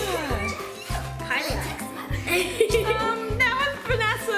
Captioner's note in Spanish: ríe